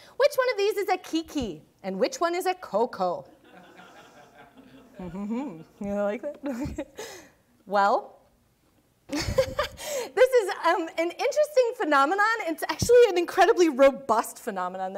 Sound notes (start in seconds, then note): 3.4 audience laughing; 6.4 laughing